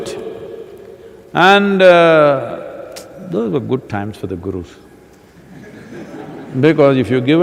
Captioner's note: laughter